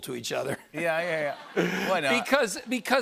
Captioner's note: laughter